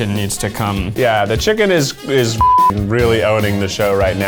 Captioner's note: beep